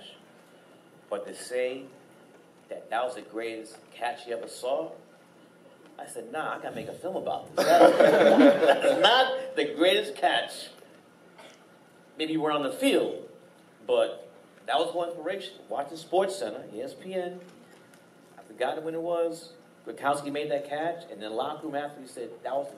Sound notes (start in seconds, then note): 7.5 laughing